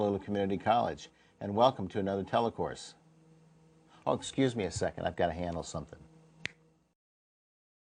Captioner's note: snapping fingers